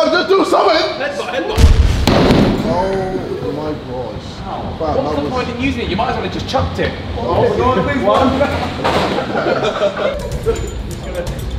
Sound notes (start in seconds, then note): 1.6 ball crashing; 7.9 lads laughing